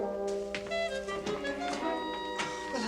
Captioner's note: doorbell rings